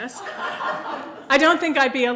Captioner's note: audience laughing